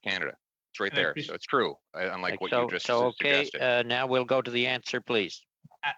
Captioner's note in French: voix de l'interprète